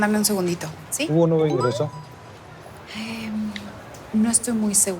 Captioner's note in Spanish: Aviso de mensaje